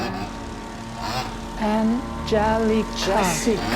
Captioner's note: leaf blower buzzing